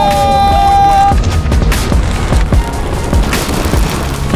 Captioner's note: friends cheering; lava sizzling